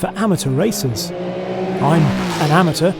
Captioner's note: car engine roaring